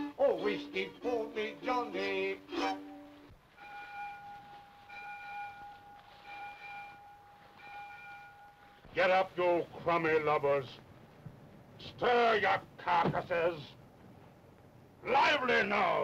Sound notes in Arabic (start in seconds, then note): 0.0 موسيقى مشرقة; 3.5 رنين الأجراس